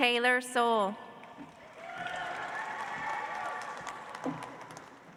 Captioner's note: audience applauds